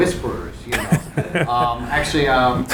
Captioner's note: laughing